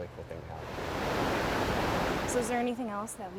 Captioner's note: water rushing